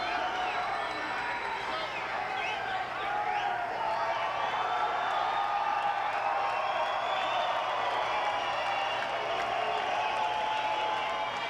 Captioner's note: applause